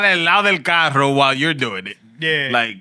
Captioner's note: speaking Spanish